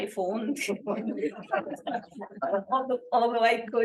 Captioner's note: laughter